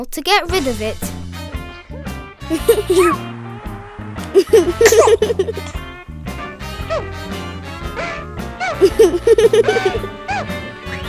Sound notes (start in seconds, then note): 2.5 giggling